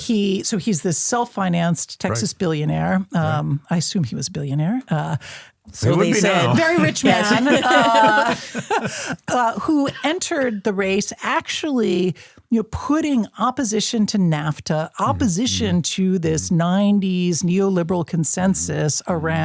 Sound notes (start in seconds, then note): 8.5 laughs